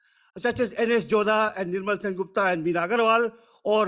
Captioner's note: speaking foreign language